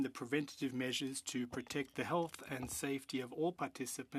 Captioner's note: speaking French